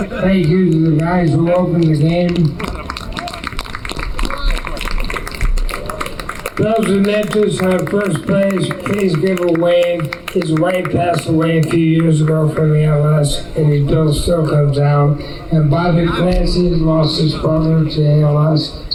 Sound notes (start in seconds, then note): 3.2 applause